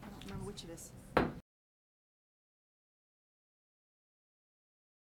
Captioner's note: gavel banging once